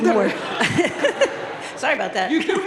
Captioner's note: crowd laughing